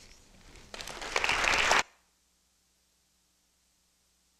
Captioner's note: crowd applauding